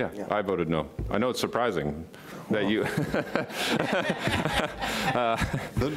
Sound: laughing

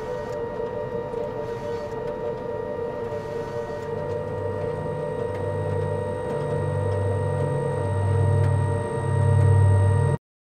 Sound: low rumbling returns

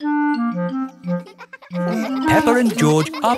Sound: children laughing

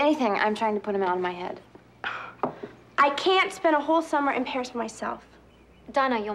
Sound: groans

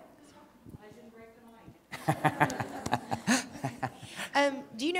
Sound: laughs

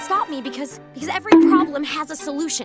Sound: bonk

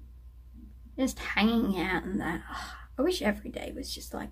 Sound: happy sigh

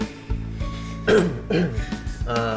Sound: clears throat

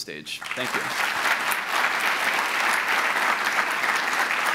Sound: applause

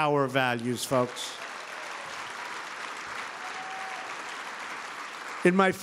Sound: applause

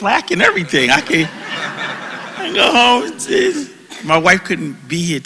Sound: laugh

